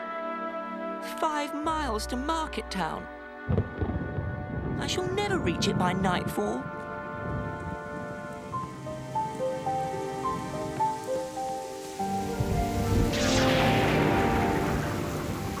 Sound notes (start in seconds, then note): 3.6 thunder